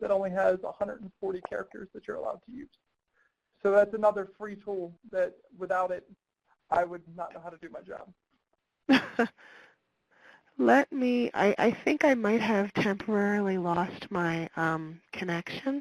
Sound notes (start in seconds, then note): 8.9 laughs